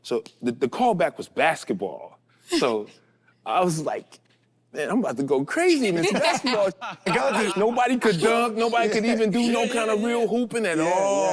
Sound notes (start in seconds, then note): 5.9 group laughs